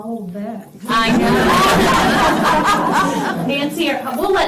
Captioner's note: laughter